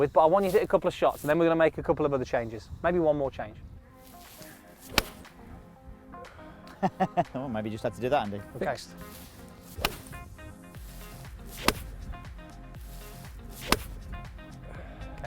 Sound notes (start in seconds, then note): 4.9 club strikes; 6.6 laughs; 10.8 club strikes